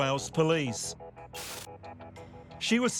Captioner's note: screen buzzing